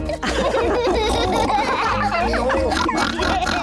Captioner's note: all giggle